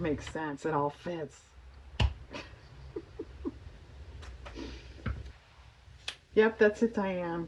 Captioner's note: laughs